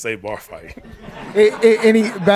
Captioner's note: all laughing